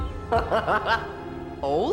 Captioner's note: laughs